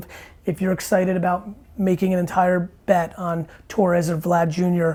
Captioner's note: none